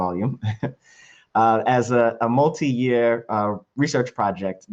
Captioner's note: laughs